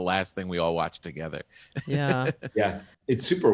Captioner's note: chuckles